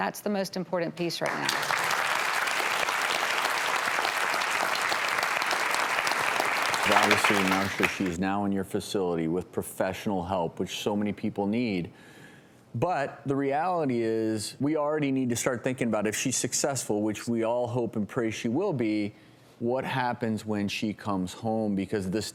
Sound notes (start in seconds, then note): 1.2 applause